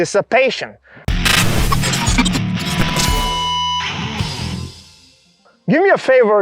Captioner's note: audio distorting; electric guitar riffing